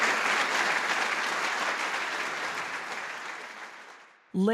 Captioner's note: clapping